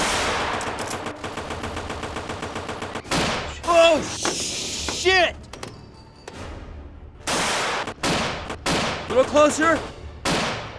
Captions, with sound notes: (machine gun firing) Oh shit. (guns firing) Little closer.